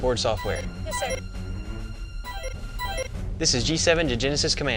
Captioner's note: computer alert sounding